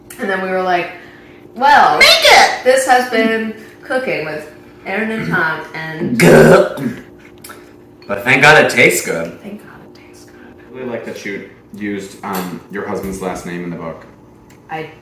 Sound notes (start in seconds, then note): 6.0 imitating vomiting sound